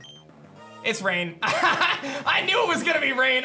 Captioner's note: laughs